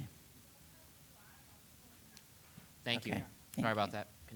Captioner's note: woman mumbling softly